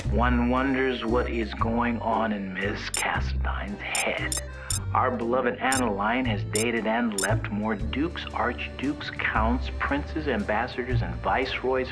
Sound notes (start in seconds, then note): 3.5 comments start beeping in